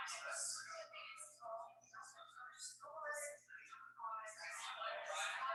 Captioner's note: people chattering indistinctly